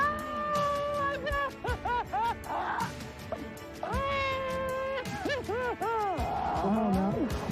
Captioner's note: laughs